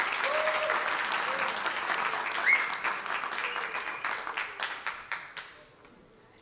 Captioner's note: applause